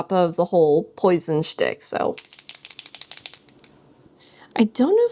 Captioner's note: marker shakes